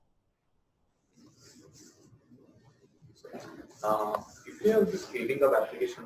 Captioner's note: pause